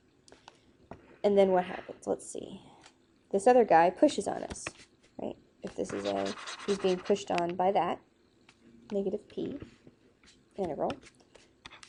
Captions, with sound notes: And then what happens? Let's see. This other guy pushes on us, right? If this is him, (highlighter skritching) he's being pushed on by that negative P integral.